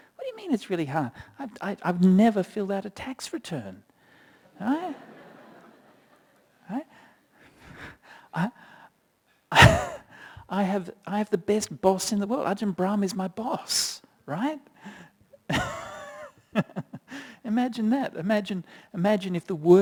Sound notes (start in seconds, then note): 7.6 laughter